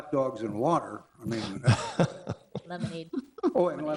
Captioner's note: people chuckle